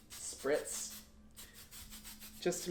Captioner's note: spritzing